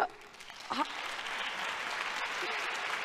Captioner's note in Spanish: aplausos